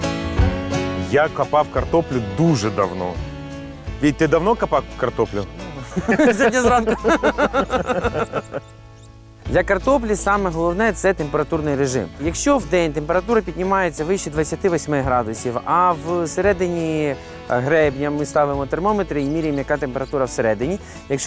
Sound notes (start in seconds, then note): 5.7 laughs